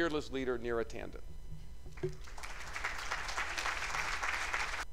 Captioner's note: applause